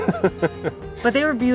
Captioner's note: chuckles